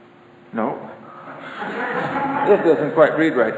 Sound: audience laughter

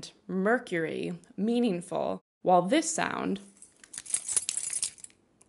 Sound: keys jangling

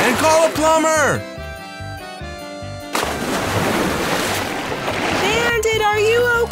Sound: water splashing and the sound of water movement

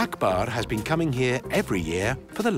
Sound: none

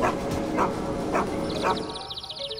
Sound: birds chirp

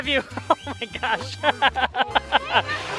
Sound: laughs

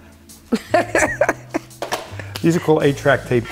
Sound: laughing

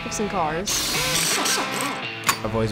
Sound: wrenches spinning

